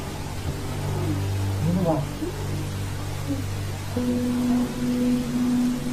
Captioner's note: speaking in foreign language